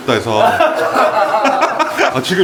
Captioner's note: laughs